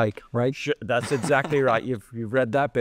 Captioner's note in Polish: śmiech